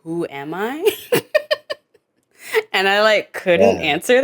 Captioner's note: chuckles